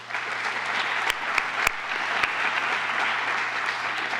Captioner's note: applause